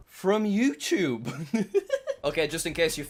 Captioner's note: laughs